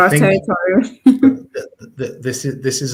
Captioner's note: chuckles